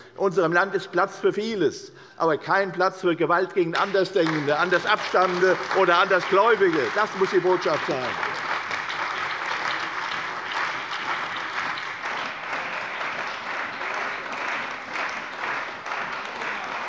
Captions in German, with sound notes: In unserem Land ist Platz für vieles, aber kein Platz für Gewalt gegen Andersdenkende, Andersabstammende oder Andersgläubige. Das muss die Botschaft sein. [Beifall bei der CDU und dem BÜNDNIS 90/DIE GRÜNEN]